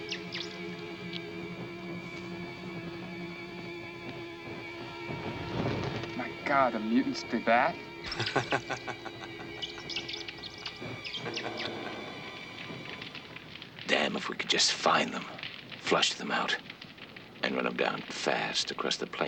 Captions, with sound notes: (tense music) My God, the mutants did that? (laughing) (rats squeaking) Damn, if we could just find them. Flush them out, then run 'em down fast across the plains.